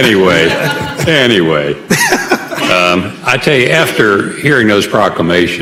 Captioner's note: laughter